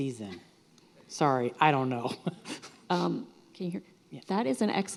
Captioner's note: laughs